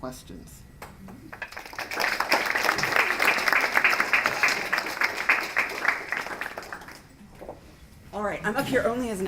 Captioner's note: applause